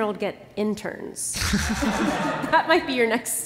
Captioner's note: laughter